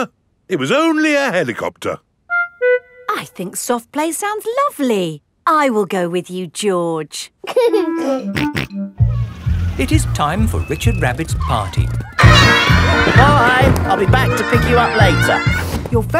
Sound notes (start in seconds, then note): 7.7 giggling and snorting